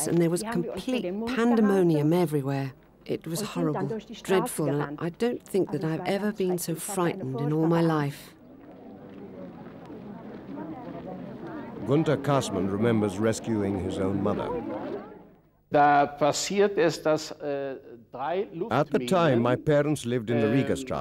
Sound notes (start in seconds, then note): 15.1 speaking in foreign language